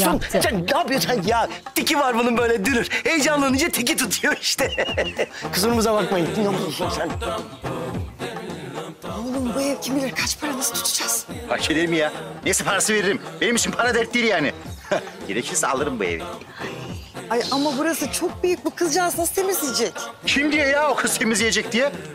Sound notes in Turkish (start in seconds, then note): 4.1 Gülme sesi